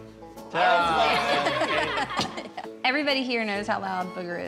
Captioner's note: laughter